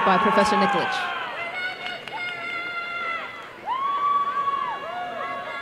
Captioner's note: applause and cheering